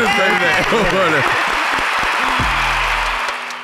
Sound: all applauding; hip-hop music

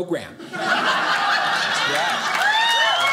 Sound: audience laughing

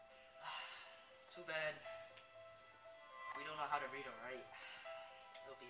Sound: sigh

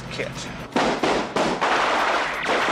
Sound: gunfire

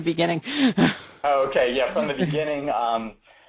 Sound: laughs

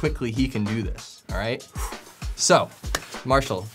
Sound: exhales

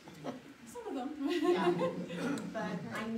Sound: laughs

